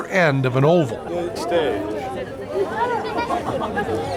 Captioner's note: chatter